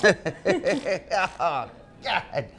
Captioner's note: people laughing